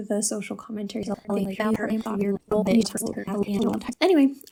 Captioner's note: sped up rambling